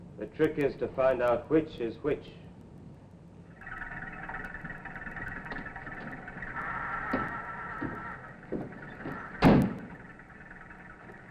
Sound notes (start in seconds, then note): 3.4 trucks humming